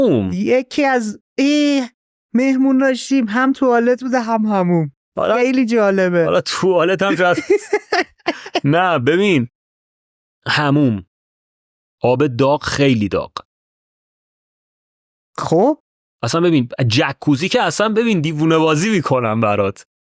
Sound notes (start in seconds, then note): 7.0 laughs